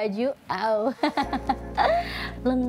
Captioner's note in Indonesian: Ketawa